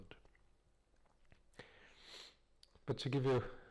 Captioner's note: pause